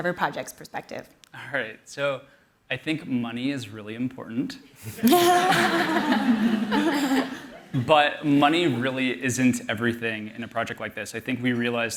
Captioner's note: laughter